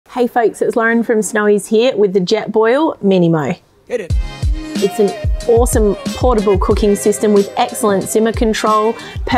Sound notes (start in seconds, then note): 3.7 male Voice; 3.9 upbeat music